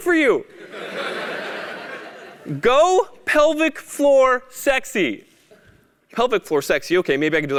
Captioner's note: laugh